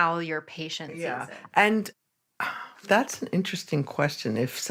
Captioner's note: sighs